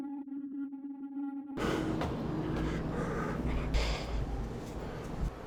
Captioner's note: heavy breathing